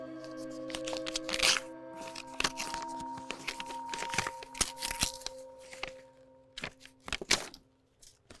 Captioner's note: envelope tearing open